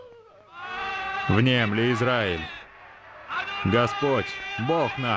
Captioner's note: crowd foreign language